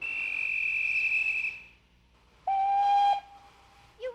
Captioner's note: whistle screeches